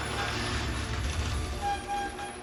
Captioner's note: sound of garage door opening